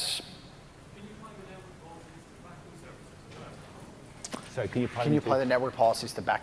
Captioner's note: off mic